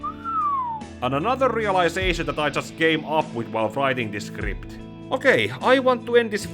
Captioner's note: whisle